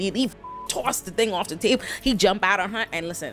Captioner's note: beep